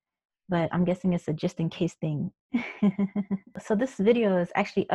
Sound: laughs

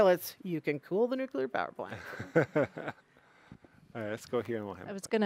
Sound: laughing

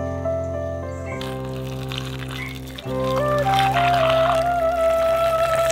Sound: boiling

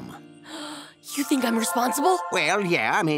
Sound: gasps

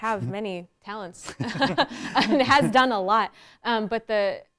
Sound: laughs

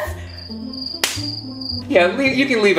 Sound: crickets chirping

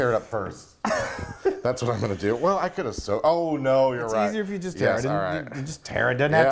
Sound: laugh

